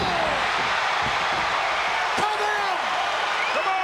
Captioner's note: audience cheering